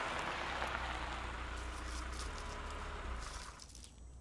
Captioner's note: car rattles and Stops